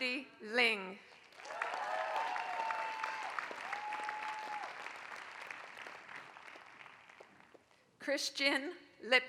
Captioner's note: applause